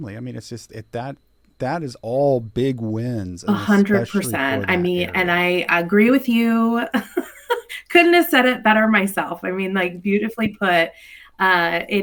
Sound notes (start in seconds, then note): 7.0 chuckles